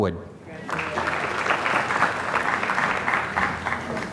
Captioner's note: applause